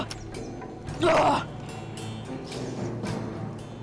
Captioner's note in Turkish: Haykırıyor